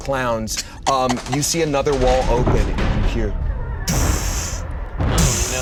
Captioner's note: mimics a thud